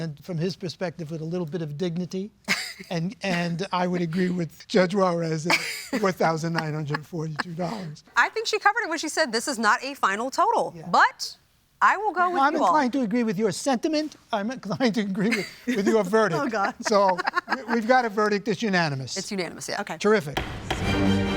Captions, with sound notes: from his perspective with a little bit of dignity. And I would agree with Judge Juarez, $4,942. [laughs] I think she covered it when she said, this is not a final total. But I will go with you all. I'm inclined to agree with your sentiment. I'm inclined to agree with your verdict. Oh, God. So we've got a verdict that's unanimous. It's unanimous, yeah. Terrific.